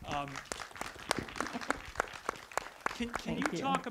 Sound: audience clapping

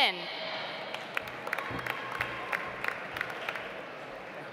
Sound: audience applauds

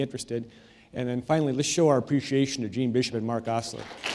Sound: applause

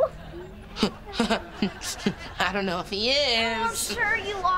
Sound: chuckles

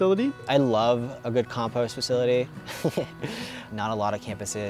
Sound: chuckling

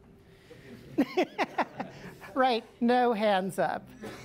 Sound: laughter

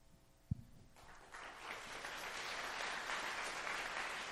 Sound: applause

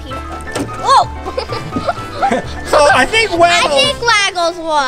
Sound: laughing

